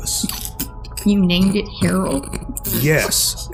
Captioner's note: Agents crack up